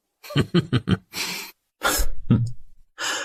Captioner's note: chuckles